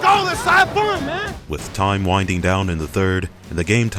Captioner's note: voiceover